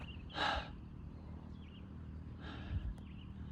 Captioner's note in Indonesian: menghela napas